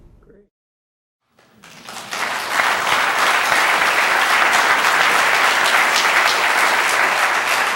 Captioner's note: applause